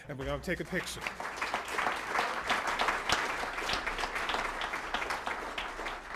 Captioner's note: applause